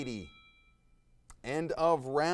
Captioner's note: timer dings